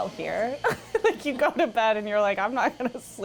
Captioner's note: laughs